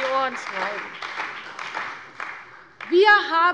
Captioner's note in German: Beifall bei der CDU und dem BÜNDNIS 90/DIE GRÜNEN